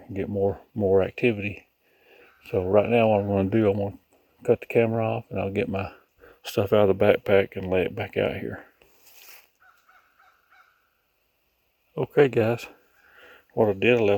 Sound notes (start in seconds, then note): 9.5 birds chirping